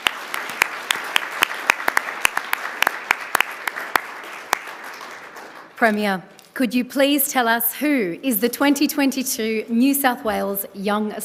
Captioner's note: applause